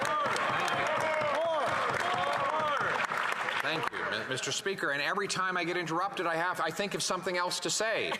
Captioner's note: some Applause